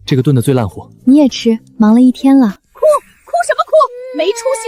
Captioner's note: cries